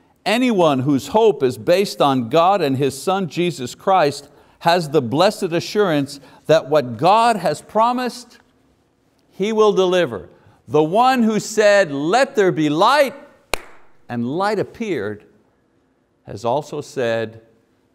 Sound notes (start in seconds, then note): 13.5 claps